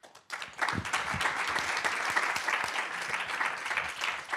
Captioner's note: applause